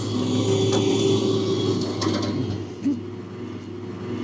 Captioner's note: machinery humming